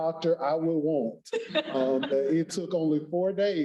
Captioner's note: laughs